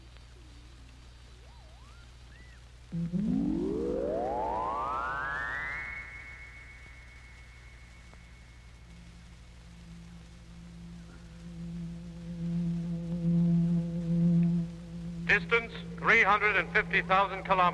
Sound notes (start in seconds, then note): 2.3 radar pulsing